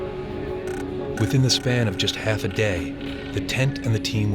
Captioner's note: voiceover